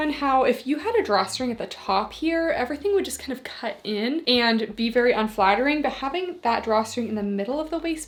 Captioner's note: none